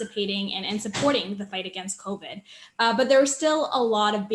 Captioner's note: door slams